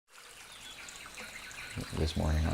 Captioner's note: jungle sounds